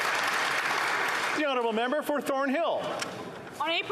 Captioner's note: applause